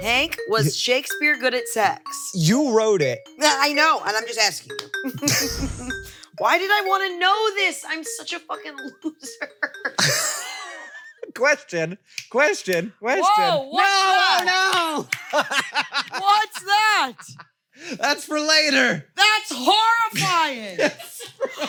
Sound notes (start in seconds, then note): 5.1 laughs; 8.8 laughs; 15.0 laughs